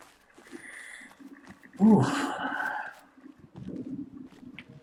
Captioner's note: breathing deep